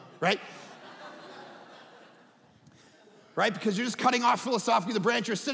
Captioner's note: audience laughing